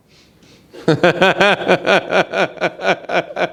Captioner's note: laughs